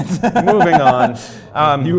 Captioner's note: laugh